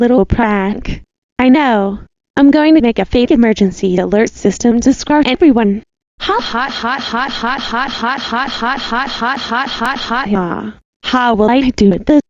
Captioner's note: laugh